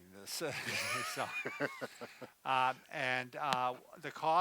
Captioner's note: both laughing